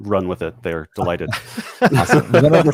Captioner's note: laughter